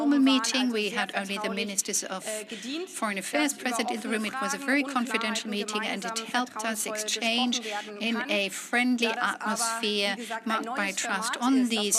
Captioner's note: speaks in German